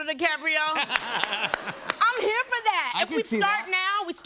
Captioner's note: laughter